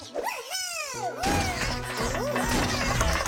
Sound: all cheering

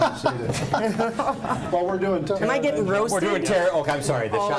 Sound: laughs

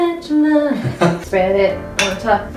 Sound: laughs

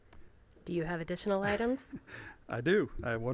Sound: laughing

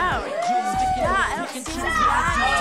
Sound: people cheering

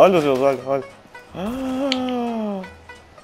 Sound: gasp

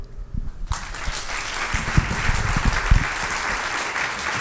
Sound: audience clapping

